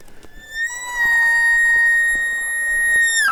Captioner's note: caller bugling